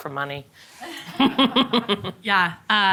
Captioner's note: all laughing